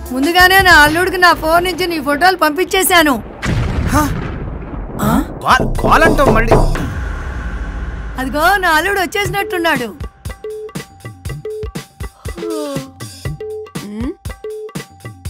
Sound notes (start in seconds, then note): 5.5 knocking door